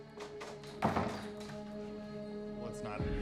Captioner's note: door slams